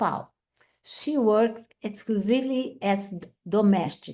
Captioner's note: speaks Portuguese